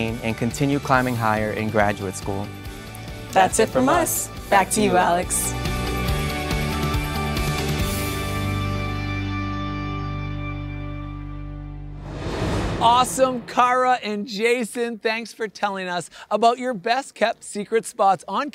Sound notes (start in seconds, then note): 5.7 bright upbeat music; 11.9 air whooshing